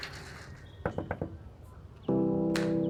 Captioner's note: door knocking; soft upbeat music